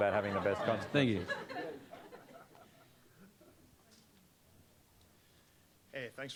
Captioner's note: audience laughing